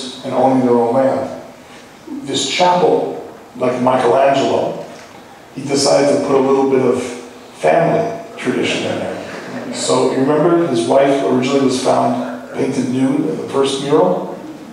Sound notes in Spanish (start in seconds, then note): 8.6 Laughing